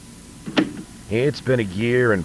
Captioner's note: tape Starts